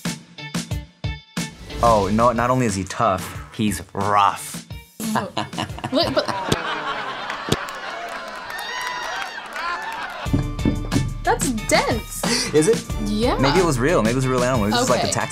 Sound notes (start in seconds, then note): 5.0 laughing